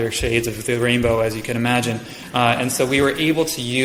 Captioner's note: audience chuckles